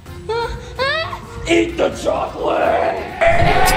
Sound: pink screams

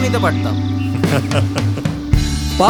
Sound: laughing

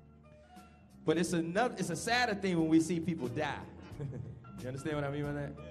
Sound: laughs

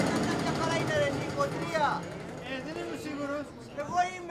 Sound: indistinct chatter in Greek

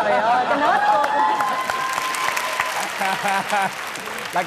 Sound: applause

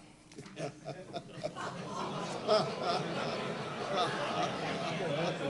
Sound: laughter

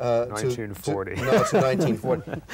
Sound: laughs

